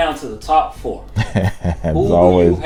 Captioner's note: chuckles